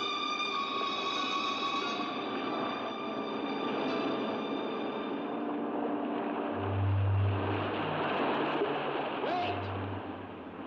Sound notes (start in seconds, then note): 6.5 water crashing